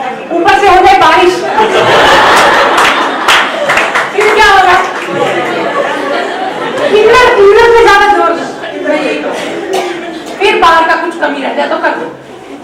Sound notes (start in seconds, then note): 1.4 audience laughs